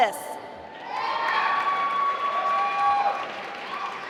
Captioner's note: applause